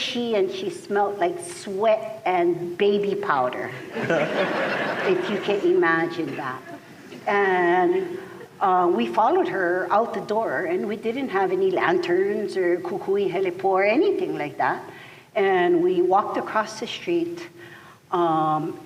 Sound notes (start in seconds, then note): 6.5 laughter